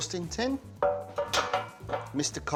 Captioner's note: pan clanging